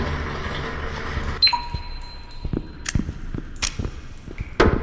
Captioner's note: footsteps